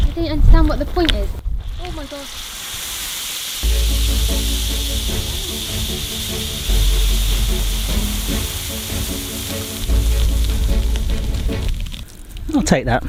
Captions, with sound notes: - I don't understand what the point is. Oh my god. (drink fizzing) (intense music) - Oh! (intense music) I'll take that.